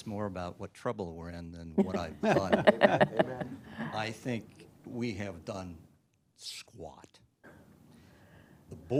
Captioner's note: laughter